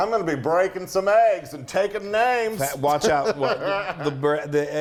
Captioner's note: laugh